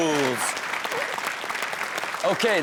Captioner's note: audience claps